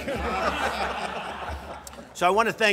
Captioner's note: laughter